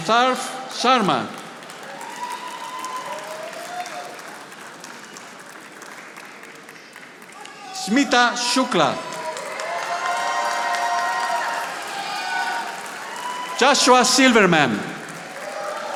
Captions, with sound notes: Atarf Sharma. (audience applauding) Smitta Shuka. (audience applauding) Joshua Silverman.